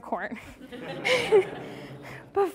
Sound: laughing

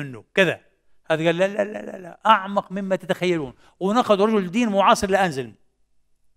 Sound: German

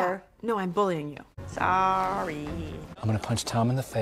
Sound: very sarcastically

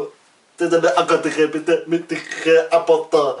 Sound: laugh

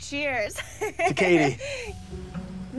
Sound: laughs

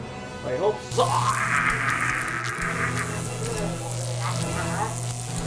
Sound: electric waves

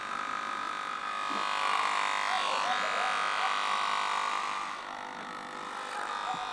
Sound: the sound of a working trimmer

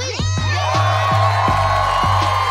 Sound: cheering

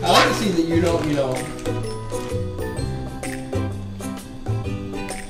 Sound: voiceover

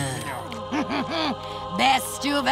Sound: chuckling

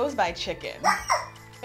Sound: squeak!

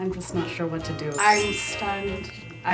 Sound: chimes

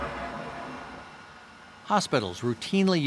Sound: opening autoclave door

